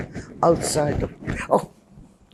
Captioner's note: gasping